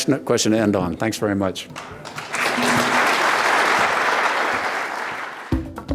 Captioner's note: audience applauding